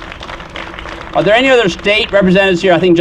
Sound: applause

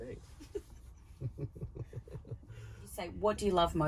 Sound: laughing

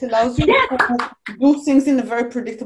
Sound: applauds

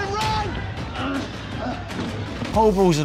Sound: fighters grunting

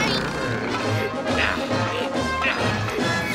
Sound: grunting

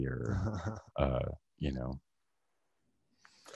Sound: laughing

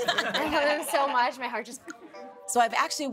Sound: laughs; clicks

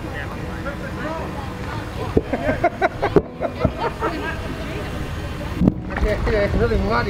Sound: background chatter; laughs

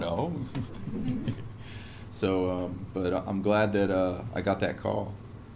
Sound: laugh

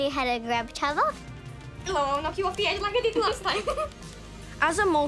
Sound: giggles

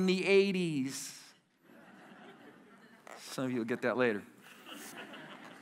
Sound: laughter

